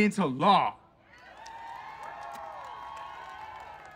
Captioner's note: audience cheering